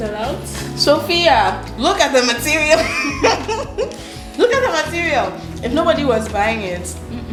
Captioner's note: both laugh